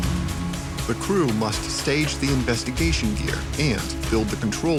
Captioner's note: voiceover